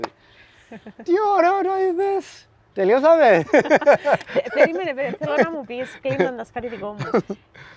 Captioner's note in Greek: γέλια